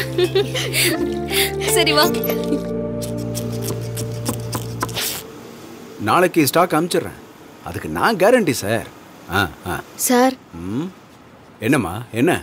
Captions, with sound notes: [Laughs...] Let’s go. (Cloth cutting with scissors) I will send you the stock tomorrow. I assure you, sir. Sir? What is it?